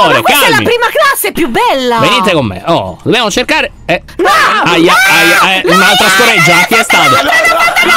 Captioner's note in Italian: urla